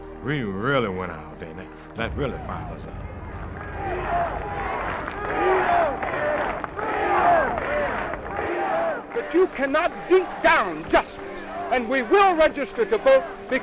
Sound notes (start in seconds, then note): 4.1 crowd chanting "Freedom! Freedom!"